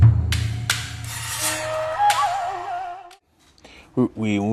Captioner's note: none